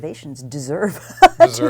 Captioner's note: laugh